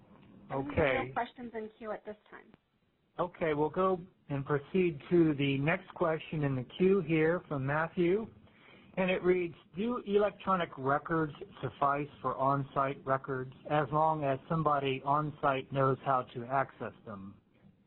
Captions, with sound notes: Okay. - [Voiceover] There's no questions in queue at this time. - [Voiceover] Okay, we'll go and proceed to the next question in the queue here from Matthew, and it reads, "do electronic records suffice for onsite records, "as long as somebody onsite knows how to access them?"